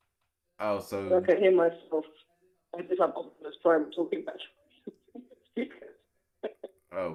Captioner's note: laughter